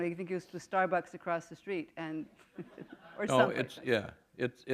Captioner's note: laughter